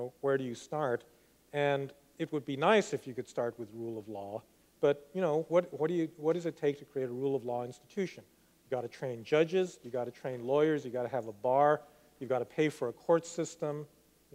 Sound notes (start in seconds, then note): none